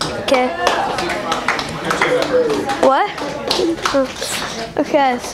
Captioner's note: audience applause